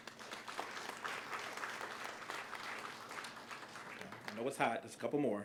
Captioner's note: applause